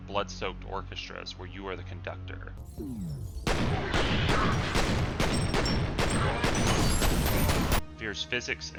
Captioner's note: gunfire, screaming, glass shattering, the sound of men getting owned